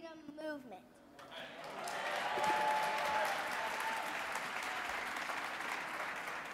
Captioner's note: audience clapping and cheering